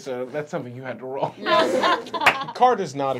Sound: laughing

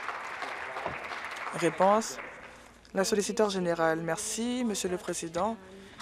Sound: applause

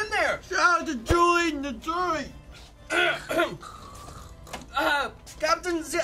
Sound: clears throat

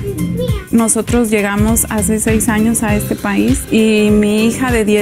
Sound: speaking Spanish

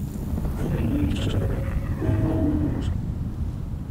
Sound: mix of technology and flesh sound

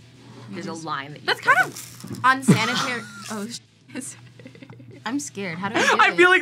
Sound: laughs

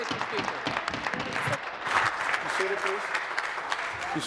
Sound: applause

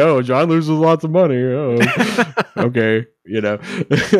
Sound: laughing

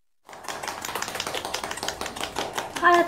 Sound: audience clapping

